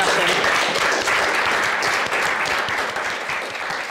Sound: audience claps

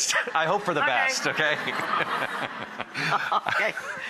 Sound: laughs

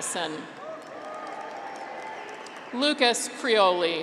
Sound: graduates cheer

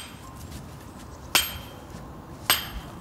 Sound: chiselling

